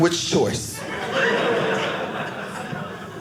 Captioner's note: audience laughing